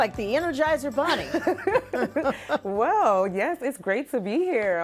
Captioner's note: laughing